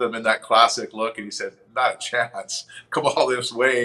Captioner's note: chuckles